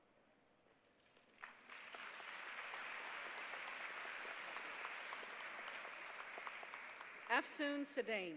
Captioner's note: applause